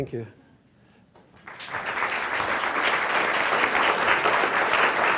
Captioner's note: applause